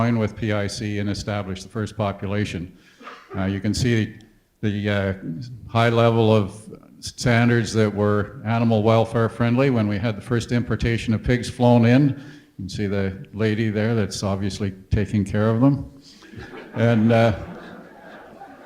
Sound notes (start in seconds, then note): 16.3 audience laughter